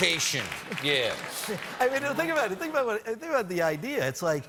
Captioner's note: laughter